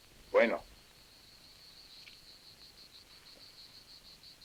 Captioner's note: insects chirring